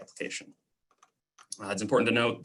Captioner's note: clicking